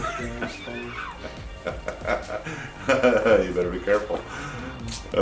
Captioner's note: laughing